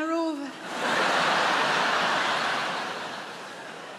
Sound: audience laughs

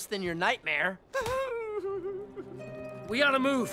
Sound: whimpering

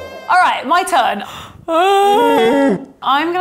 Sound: yawning

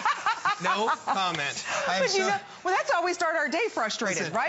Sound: laughter

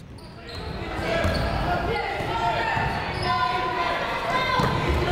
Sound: people shouting in the crowd

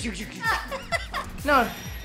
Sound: laughing

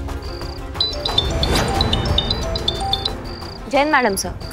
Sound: phone ringing

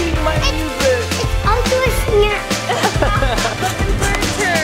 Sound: laughing; maraca shakes

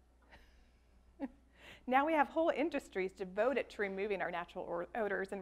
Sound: laughs

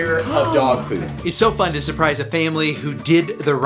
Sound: gasps

